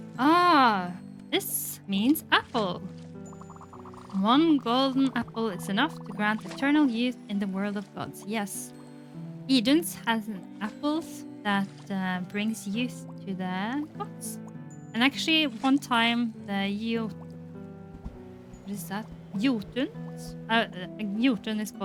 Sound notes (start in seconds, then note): none